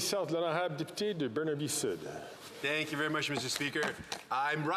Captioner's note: applause